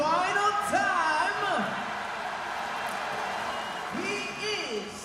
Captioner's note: audience cheering; audience applauding